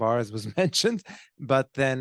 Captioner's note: laughing